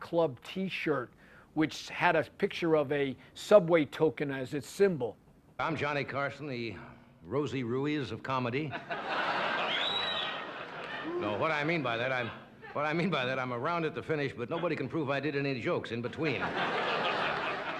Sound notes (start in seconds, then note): 8.6 laughter; 16.2 laughter